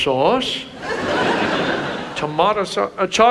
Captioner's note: audience laughs